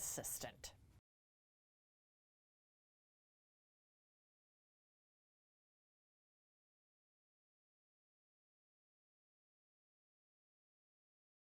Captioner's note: no Sound Present